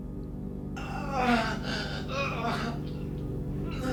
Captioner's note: suspenseful tones; man moaning